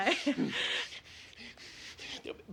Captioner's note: panting